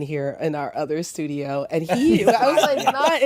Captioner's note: laughter